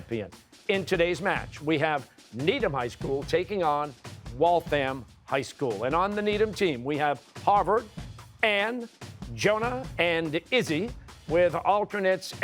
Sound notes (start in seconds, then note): none